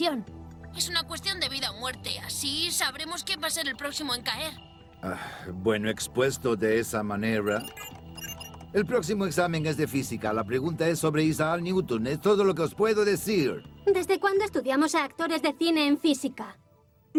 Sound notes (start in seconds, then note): 5.0 sigh